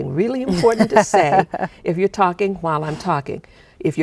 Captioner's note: chuckling